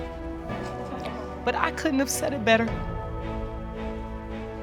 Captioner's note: voice breaks